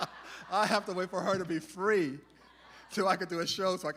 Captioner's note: cheering